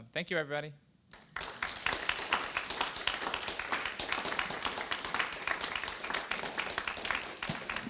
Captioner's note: applause